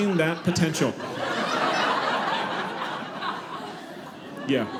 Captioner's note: audience laughing